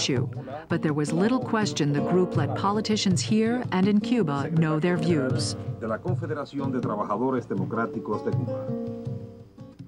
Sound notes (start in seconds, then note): 5.3 speaking in Spanish